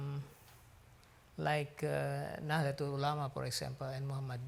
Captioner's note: speaks foreign language